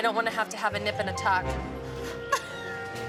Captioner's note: laughs